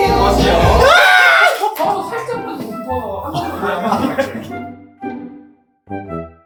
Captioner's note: screaming right as the cut signal comes